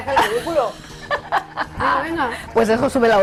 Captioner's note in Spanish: Risas